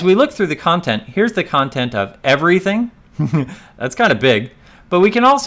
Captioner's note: laugh